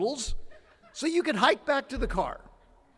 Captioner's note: attendee laughing